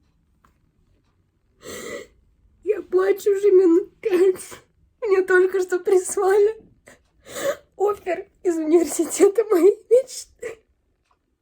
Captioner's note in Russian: вздох